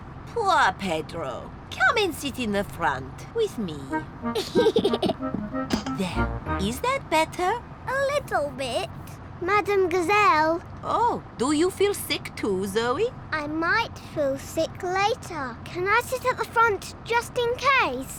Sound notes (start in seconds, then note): 4.3 giggles